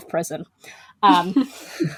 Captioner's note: laugh